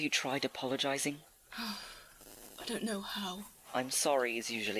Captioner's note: lets out a breath